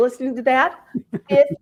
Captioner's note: chuckle